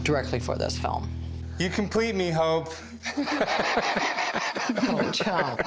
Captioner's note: laughter